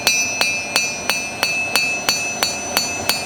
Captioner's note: bell